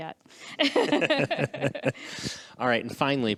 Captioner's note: all laughing